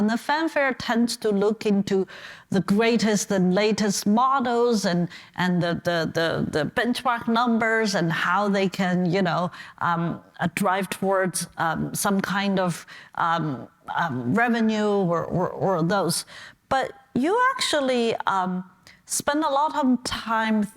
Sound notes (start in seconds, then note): none